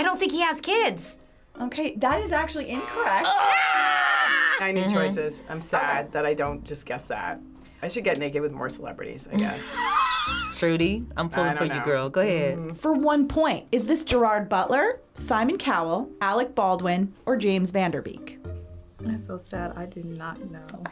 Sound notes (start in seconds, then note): 2.8 both screaming; 9.4 laughing